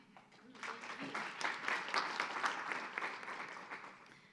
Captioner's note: audience applauds